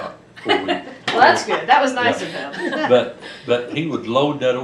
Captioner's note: laughter